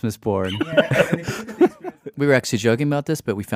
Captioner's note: laughs